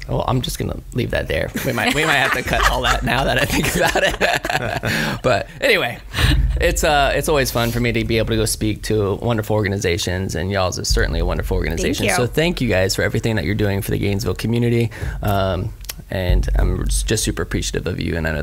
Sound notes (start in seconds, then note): 1.6 laughs